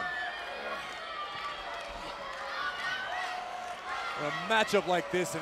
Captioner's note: crowd shouting